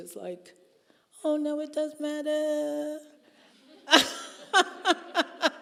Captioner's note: laughing